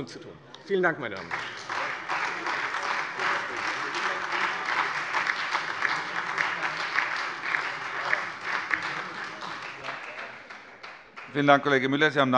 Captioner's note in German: Beifall Freie Demokraten und SPD